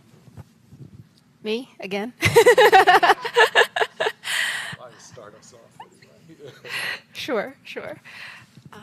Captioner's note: laughter